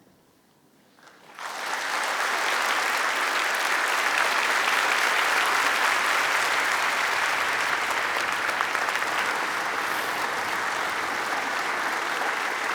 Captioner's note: applause